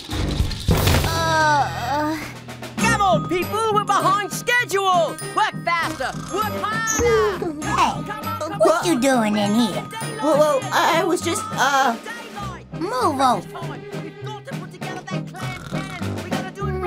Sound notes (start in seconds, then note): 0.9 groans